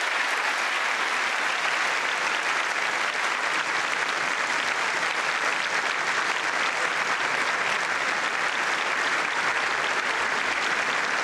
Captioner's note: applause